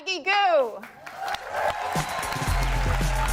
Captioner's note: cheering; upbeat music